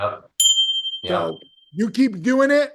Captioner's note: bell dinging